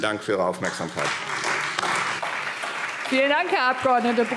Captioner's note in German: Beifall Freie Demokraten, SPD und DIE LINKE